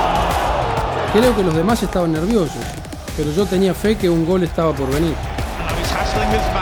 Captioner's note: in Spanish